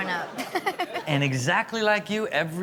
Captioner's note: laughs